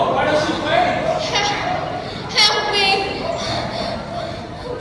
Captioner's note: panting